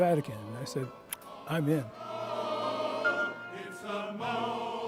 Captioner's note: tongue clicks